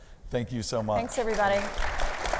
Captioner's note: audience applauding